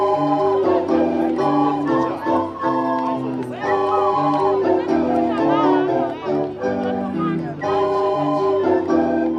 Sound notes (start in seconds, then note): 1.1 crowd chatting